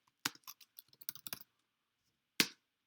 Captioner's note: typing